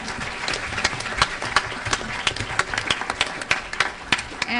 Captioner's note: applause